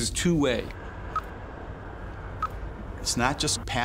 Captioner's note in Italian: bip elettronico